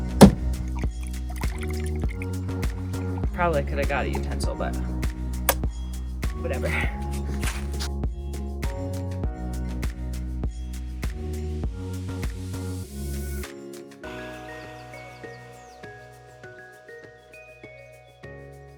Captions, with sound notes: (coffee splashing) Probably could have got a utensil, but whatever. (bright music continues)